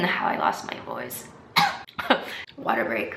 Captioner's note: chokes